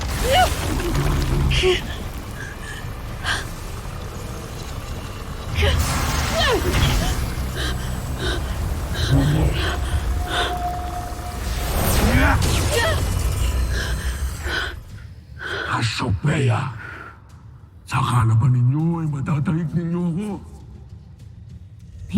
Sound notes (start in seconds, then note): 0.0 powerful blast-crackle; 0.1 grunts; 2.0 powerful whoosh-crackle; 5.5 ethereal whoosh; 5.6 powerful blast-crackle; 6.3 grunts; 7.7 powerful whoosh-crackle; 8.9 gargan growls; 10.6 powerful whoosh-crackle; 11.3 powerful blast-crackle; 11.3 growls & grunts